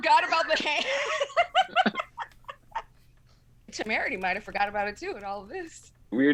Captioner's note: laughs